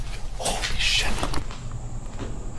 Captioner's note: whisper